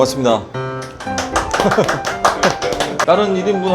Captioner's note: clap clap clap clap clap clap clap